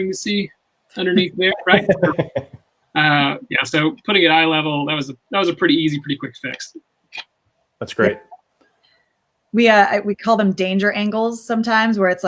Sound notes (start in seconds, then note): 1.0 laughs